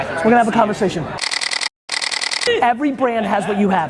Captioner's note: camera shutter clicking